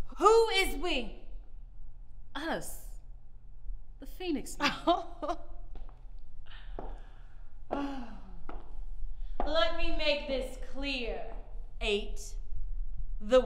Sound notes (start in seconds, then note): 4.6 ma'am laughs